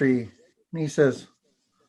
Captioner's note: foreign language